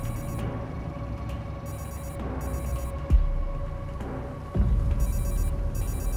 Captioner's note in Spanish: Suena el celular